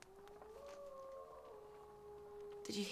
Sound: wolf howls

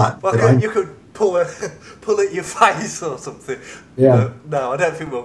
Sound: laughs

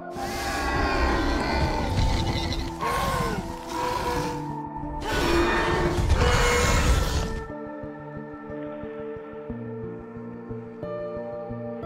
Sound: Scorpius Rex hissing

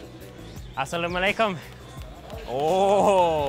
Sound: greetings in Arabic

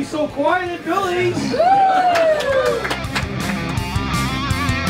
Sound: cheers

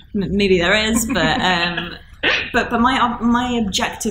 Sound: laughing

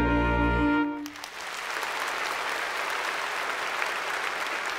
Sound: applause

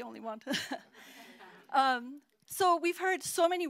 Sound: laughter

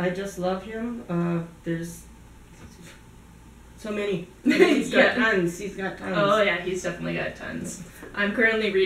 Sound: laughter

